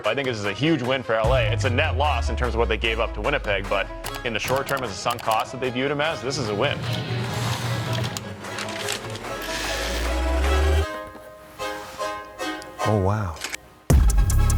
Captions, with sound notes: - I think this is a huge win for LA. It's a net loss in terms of what they gave up to Winnipeg, but in the short term as a sunk cost that they viewed him as, this is a win. (dramatic music) (light clicks) (paper rustles) (light buzzes) - Oh wow.